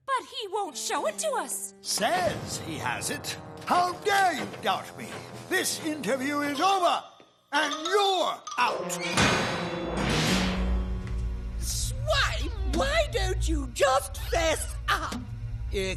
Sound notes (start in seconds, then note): 9.0 door slams shut